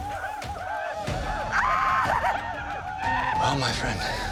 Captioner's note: whooping